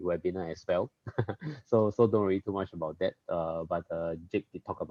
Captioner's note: laughs